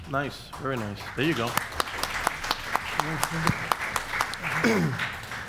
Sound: audience applauds

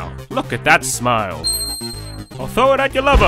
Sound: shine sound effect

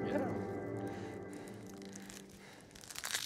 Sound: faint heavy breathing; onion scales rustling

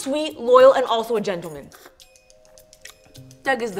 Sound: slurps

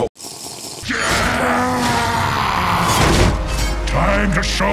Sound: screaming

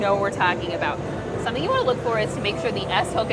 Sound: none

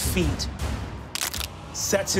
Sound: cracking

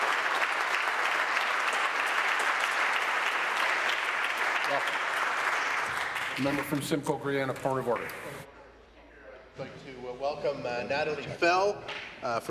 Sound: applause

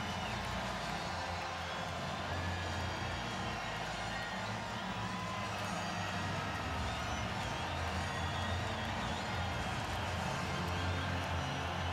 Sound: cheers and applause

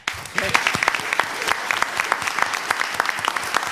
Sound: applause

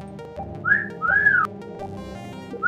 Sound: whistles

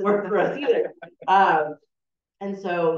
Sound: chuckling

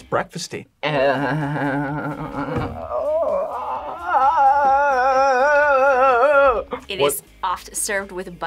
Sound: groans

